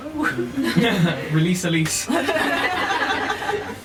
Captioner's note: laughter